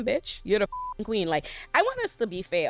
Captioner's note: beep